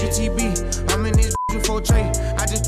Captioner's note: beep